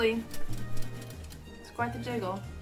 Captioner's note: jiggle noises